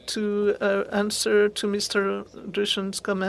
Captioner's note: speaking french